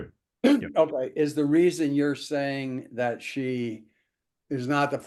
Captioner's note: cough